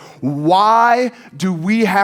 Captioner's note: none